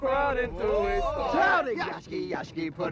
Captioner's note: cheering